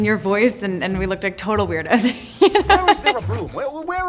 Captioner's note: laughing